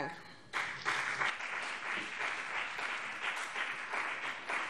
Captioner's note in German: Beifall BÜNDNIS 90/DIE GRÜNEN und CDU